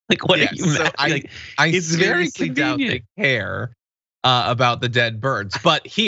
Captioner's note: laugh